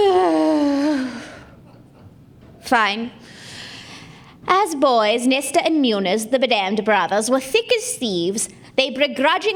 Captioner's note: groan